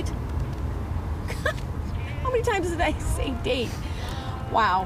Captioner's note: laughs